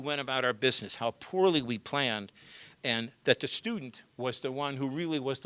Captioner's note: none